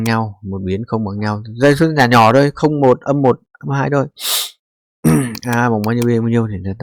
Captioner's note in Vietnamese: khịt mũi